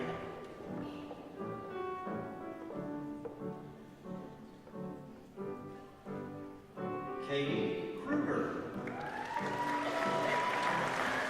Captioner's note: applause